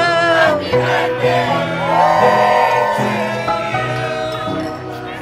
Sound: shouting: happy birthday! woo!

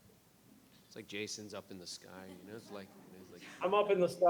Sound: murmurs

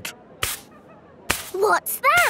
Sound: brushing

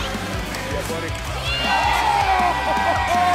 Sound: energizing country music; crowd cheering; energizing country music

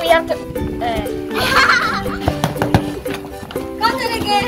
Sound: laughing

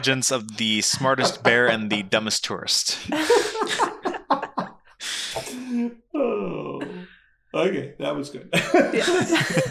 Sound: laughing

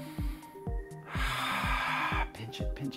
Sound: exhaling

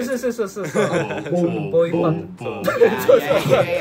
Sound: vocal percussion attempts 😅

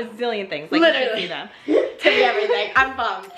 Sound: laughs

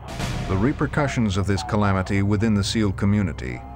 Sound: voiceover

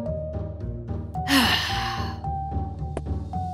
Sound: exhale

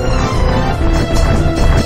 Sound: clomp

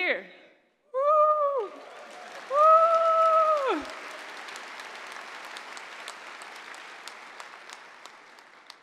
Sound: applause

